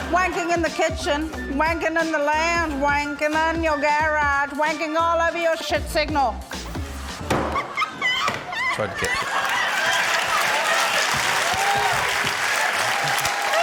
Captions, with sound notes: Wanking in the kitchen. Wanking in the lounge. Wanking in your garage. Wanking all over your shit signal. (MICROPHONE THUMPS) - Tried to catch it. (LAUGHTER, CHEERING, APPLAUSE)